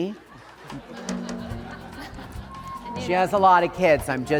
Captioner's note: audience laughing